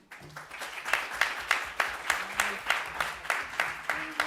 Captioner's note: audience applauds